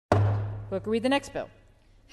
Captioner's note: gavel bang